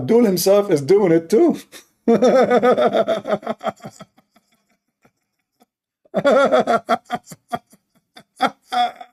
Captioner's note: Ketawa